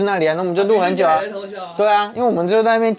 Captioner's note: was snickering too